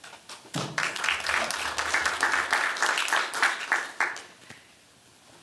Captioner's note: applause